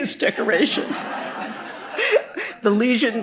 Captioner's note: laughter